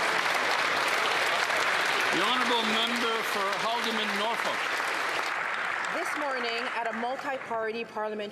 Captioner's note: some Applause